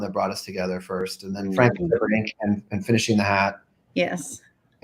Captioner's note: mic cuts out